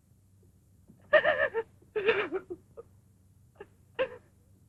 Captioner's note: sobbing